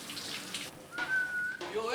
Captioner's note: whistles